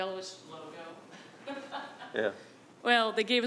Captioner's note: laughing